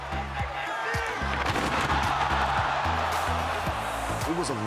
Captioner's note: crowd shouts